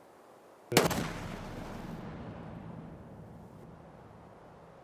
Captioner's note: gun bangs